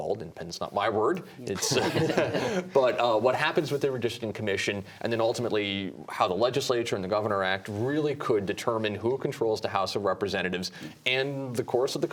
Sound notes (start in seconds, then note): 1.6 laughter